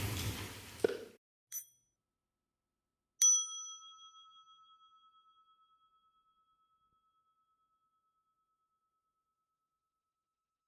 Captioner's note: small bell